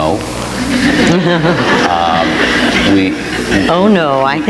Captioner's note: audience laughs